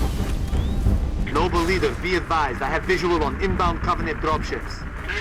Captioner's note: radio